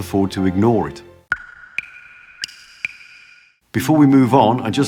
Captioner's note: water drops